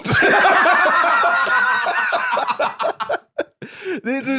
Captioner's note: both laughing